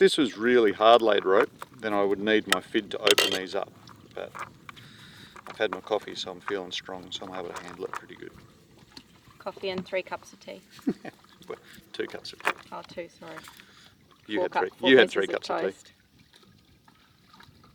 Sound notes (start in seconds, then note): 10.8 laughing